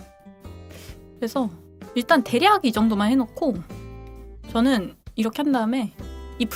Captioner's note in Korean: 콧방귀